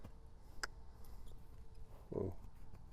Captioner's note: clicks tongue